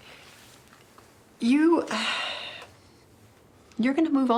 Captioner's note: sighs